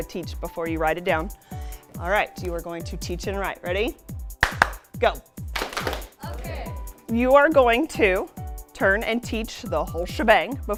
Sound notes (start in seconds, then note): 5.5 clapping